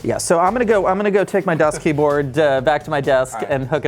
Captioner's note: laughs